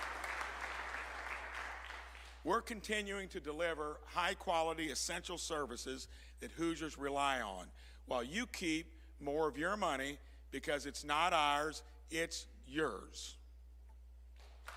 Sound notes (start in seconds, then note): 3.6 applause